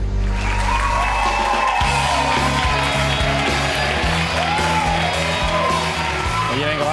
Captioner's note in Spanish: Applause+Music